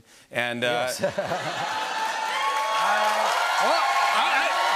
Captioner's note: applause